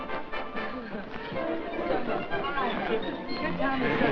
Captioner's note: low chatter